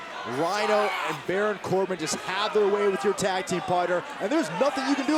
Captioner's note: crowd cheering